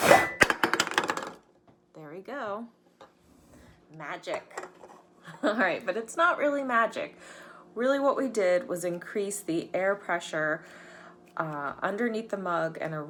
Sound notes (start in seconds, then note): 0.0 can clattering; 5.8 laughs